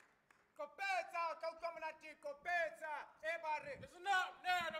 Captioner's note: speaking in language other than English